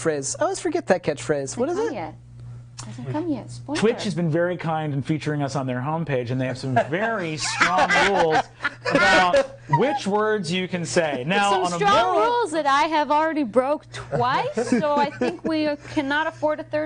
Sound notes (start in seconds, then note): 6.6 others laughing; 14.0 laughing